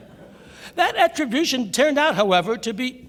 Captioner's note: laughter